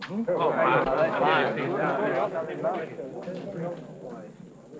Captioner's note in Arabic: الناس يتحدثون بصوت خافت